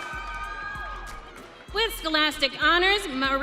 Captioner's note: audience cheering